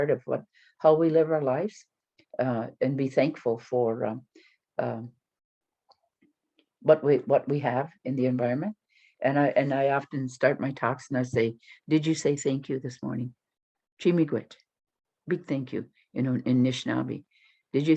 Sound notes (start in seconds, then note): 13.4 speaking foreign language